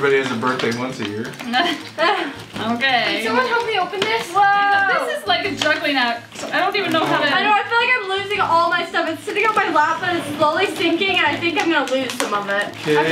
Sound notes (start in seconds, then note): 1.5 laughs